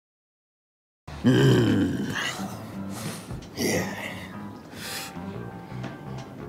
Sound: groans

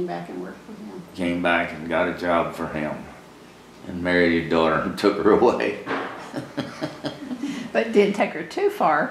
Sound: laughs

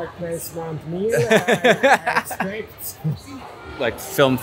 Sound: laughing

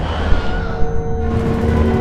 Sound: distant screaming; spooky music

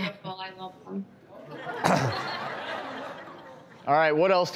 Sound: audience laughs

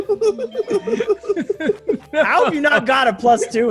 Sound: laugh

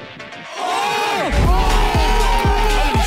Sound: players cheer

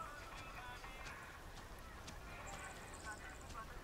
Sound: radio playing in background

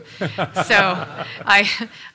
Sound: laughter

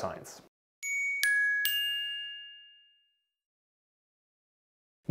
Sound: light dinging bell

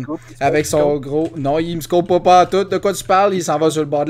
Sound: nervous

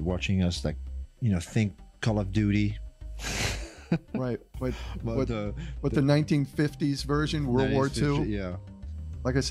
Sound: laughter

